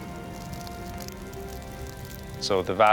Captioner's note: flames crackling